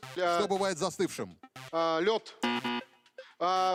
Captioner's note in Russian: пи-пи